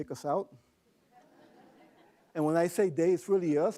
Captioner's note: laughing